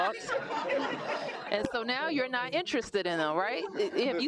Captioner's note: laughter